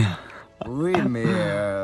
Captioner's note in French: Rire